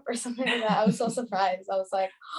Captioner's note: laughs